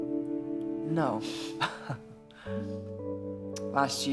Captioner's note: laughs